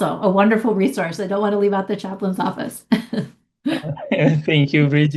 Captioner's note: chuckles